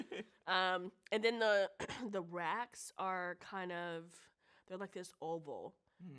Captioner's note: clears throat